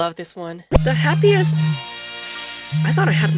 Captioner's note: interrupted by phone ring